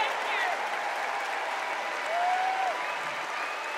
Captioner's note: cheers and applause